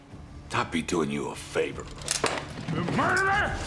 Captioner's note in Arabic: كلا الصراخين